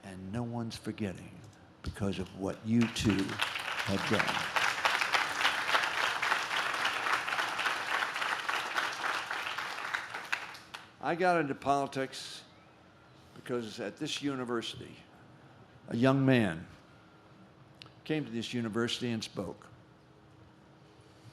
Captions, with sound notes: and no one's forgetting because of what you two have done. (audience claps) I got into politics, because at this university, a young man came to this university and spoke.